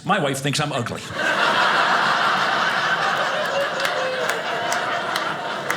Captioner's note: audience laughing